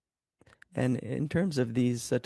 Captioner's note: speaking in French